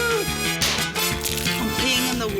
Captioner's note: groans; pop!